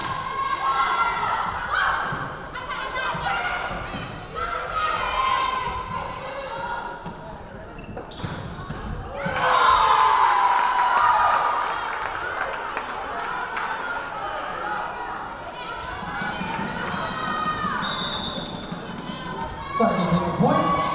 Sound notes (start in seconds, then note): 9.9 clapping; 10.3 cheering; 14.2 yelling; 17.6 whistle blowing